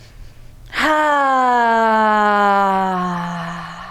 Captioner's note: inhales deeply; exhales deeply